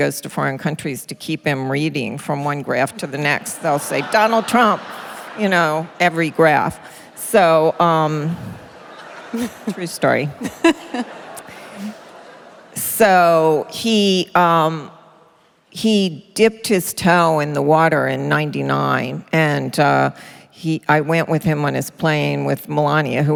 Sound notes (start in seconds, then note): 3.4 laughter; 8.2 laughter